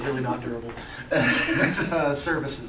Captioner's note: laughter